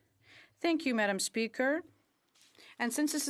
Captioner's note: speaking in French